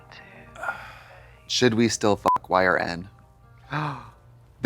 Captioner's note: beep